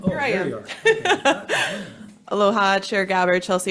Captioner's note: chuckles